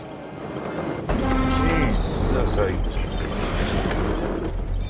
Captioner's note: horn blares